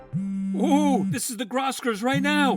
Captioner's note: phone buzzing